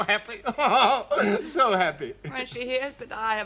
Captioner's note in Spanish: Risas